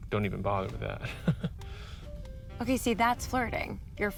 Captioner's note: chuckles nervously